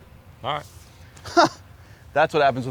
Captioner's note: chuckles